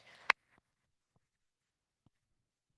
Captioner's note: applause